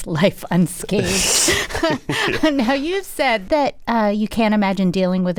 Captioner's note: laughter